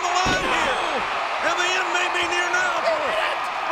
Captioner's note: body thudding